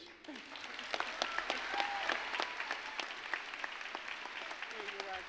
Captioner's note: applause